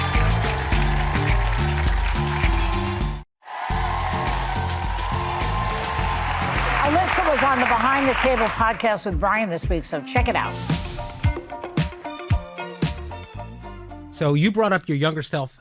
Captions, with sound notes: (upbeat music) (audience applauding) - Unless the one's on the behind the table podcast with Brian this week, so check it out. - So you brought up your younger self